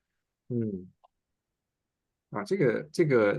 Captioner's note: nonverbal grunt as interjection